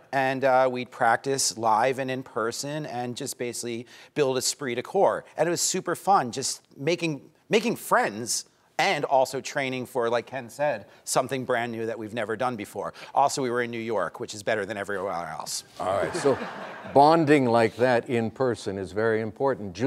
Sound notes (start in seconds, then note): 15.8 laughing